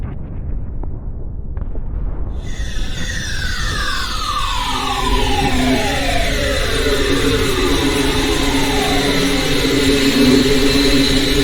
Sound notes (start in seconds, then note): 2.8 wind whooshing